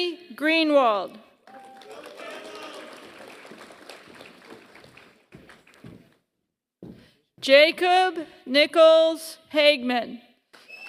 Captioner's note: applause; applause